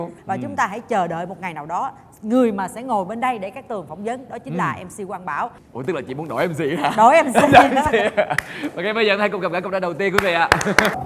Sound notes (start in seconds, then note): 7.4 nervous laughter; 10.1 laughs and claps